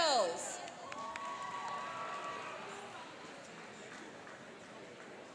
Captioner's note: cheering and applauding